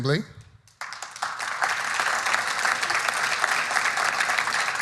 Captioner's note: audience applauding